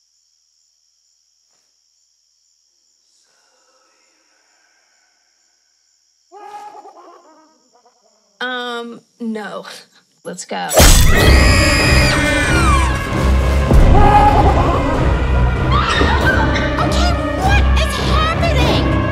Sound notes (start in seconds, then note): 6.4 laugh; 10.8 screams; 14.5 laughs; 15.6 screams